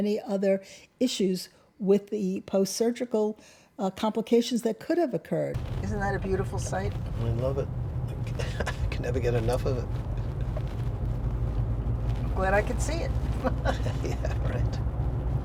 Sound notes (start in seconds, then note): 13.2 laughs